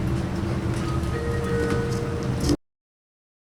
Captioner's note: arrival chime sounds